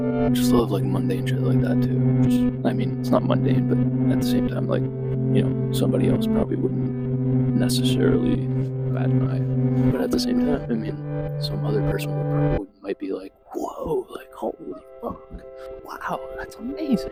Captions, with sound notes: I just love, like, mundane shit like that too, just… I mean, it's not mundane, but at the same time, like, you know, somebody else probably wouldn't necessarily bat an eye. (voice fading) But at the same time, I mean, some other person might be like, "Whoa!" Like, "Holy fuck! Wow, that's amazing!"